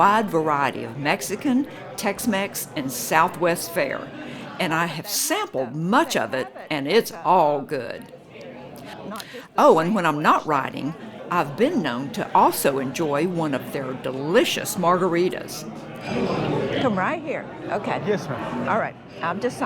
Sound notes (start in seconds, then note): 13.0 patrons bustling